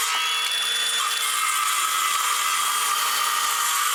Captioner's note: saw buzzing